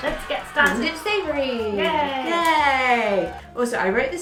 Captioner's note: applause sfx